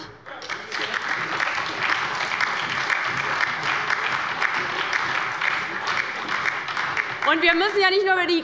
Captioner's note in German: Beifall bei der LINKEN und der SPD